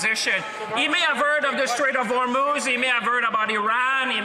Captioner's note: speaking French